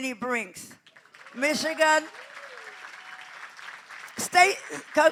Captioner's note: applause